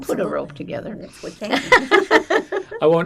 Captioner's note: laughing